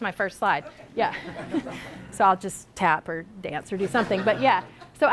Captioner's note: laughter from audience